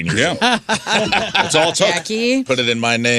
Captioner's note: laughing